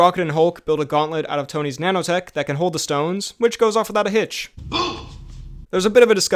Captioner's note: boom